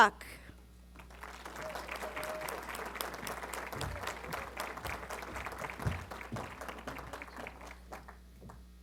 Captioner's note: applause